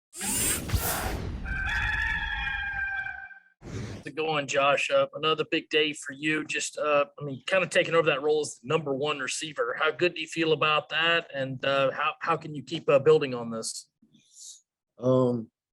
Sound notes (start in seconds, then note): 1.4 rooster crowing